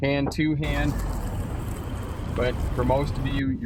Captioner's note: asphalt crunching under wheels